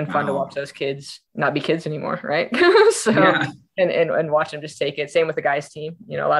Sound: laughing

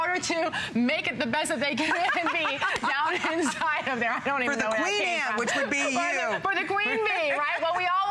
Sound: laughter

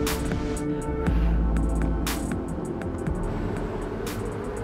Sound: deep breath

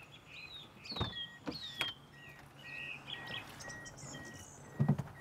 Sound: alarm beeping

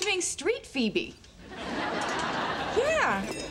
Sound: audience laughing

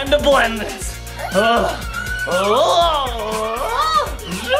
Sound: laughing

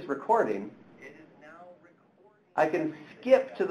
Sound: tablet playing audio of speaking

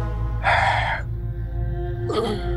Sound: gasping

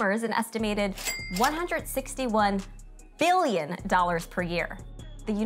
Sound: cash register dinging

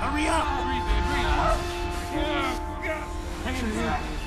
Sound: hugh: continues to cry out

